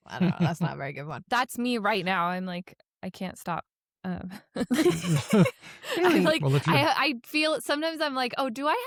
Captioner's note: laughter